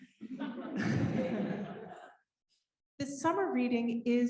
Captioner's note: laughing